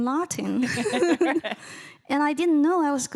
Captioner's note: laughing